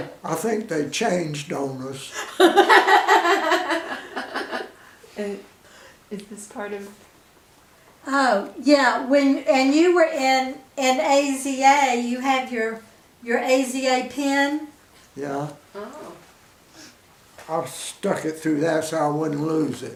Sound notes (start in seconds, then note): 2.1 women laugh